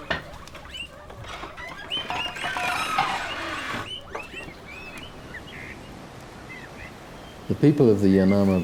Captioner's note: birds singing